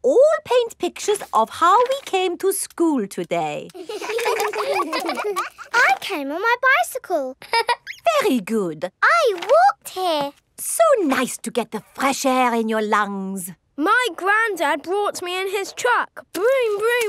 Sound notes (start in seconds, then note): 3.7 all laughing; 7.4 laughs